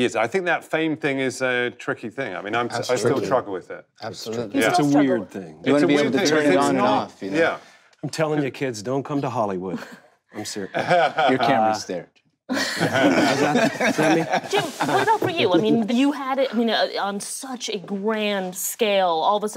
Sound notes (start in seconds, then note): 12.5 Don laughing